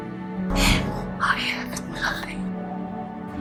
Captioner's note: voiceover